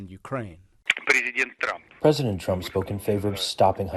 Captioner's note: through translator